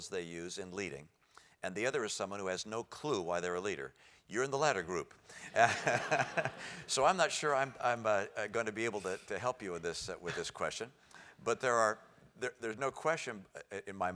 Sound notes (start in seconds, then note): 5.4 laugh